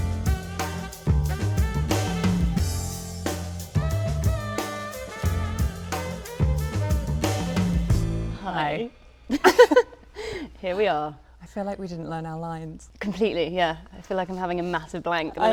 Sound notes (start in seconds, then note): 2.3 upbeat jazz music; 9.3 both laughing